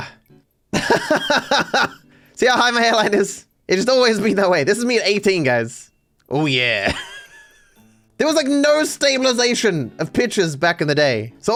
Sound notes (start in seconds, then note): 0.8 laughing